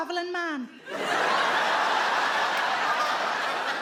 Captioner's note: audience laughs